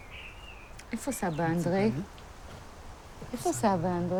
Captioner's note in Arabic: الصوت المنطوق باللغة العبرية